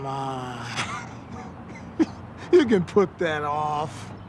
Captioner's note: laughing